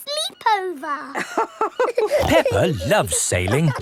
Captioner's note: both laughing